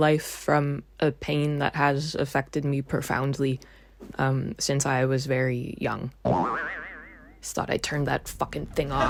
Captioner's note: boioioing noise; studio laughter